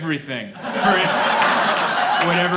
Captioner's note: laughter